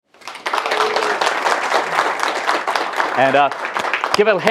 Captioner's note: applause